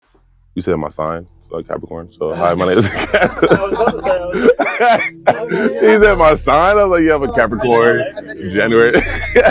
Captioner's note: laughing